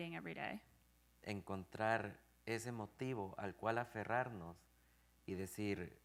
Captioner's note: speaking in Spanish